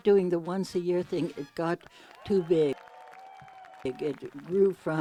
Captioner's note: cheers and applause